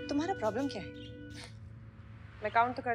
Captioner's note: Scoffs